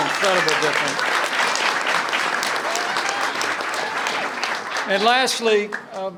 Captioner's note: applause